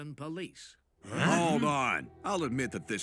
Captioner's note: all gasp